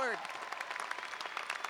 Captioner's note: applause